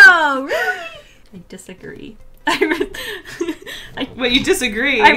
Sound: laughs

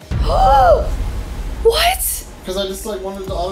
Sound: gasping

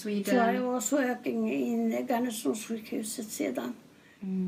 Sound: foreign language

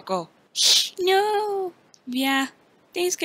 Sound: hisses

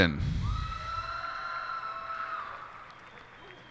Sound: cheers and applause

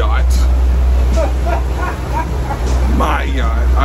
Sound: Frank's mom laughing

